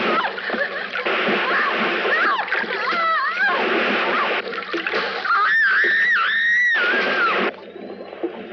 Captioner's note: woman screams